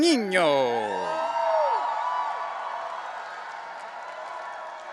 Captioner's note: audience cheering